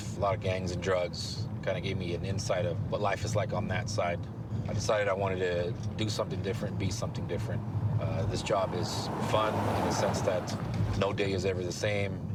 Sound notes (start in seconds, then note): none